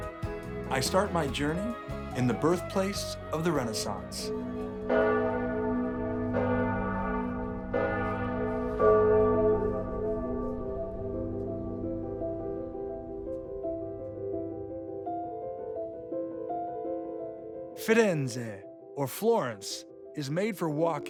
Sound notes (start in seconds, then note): 4.8 bells tolling; 9.8 gentle music